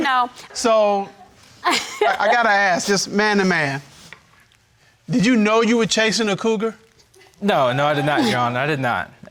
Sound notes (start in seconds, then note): 1.6 laughs; 7.2 audience laughing